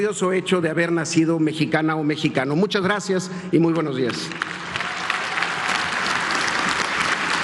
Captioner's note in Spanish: aplausos